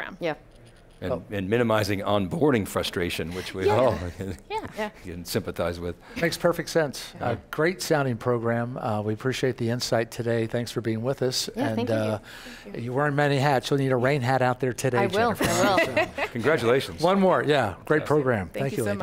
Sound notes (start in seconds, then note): 15.3 laughing